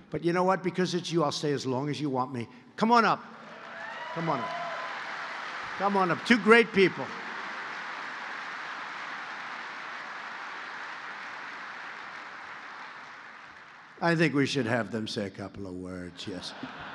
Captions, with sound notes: But, you know what? Because it's you, I'll stay as long as you want me. Come on up. (applause) Come on up. Come on up. Two great people. (applause) I think we should have them say a couple of words. Yes.